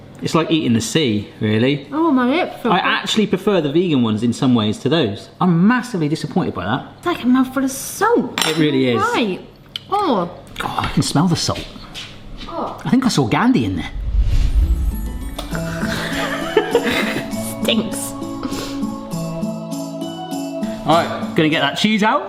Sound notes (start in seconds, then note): 14.0 festive music; 15.5 both laughing